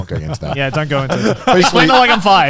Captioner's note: laughs